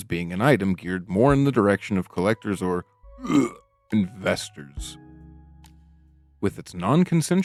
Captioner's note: gagging